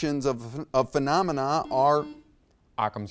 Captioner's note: buzzer beeps